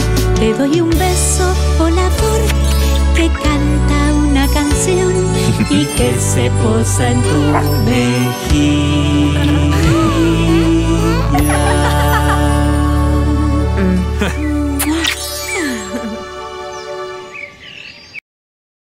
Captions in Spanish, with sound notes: Te doy un beso volador... te canta una canción... Y que se posa en su mejilla... (Risas) (Sonido de beso) "Mua"